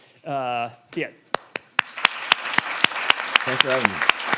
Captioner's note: audience applauding